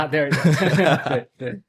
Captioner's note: laughs